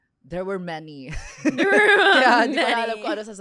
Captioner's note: laughs